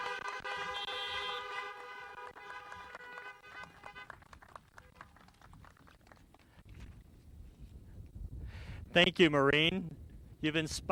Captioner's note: applause